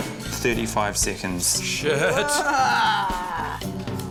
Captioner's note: exclaims